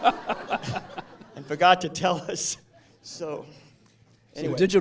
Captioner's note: laughter